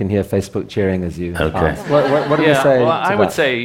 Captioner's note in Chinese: Laughter; 笑聲